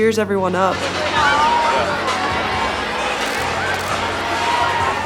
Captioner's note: camera flashing